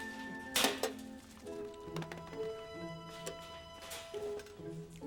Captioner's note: cage door clatters